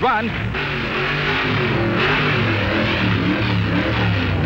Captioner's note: hot rods revving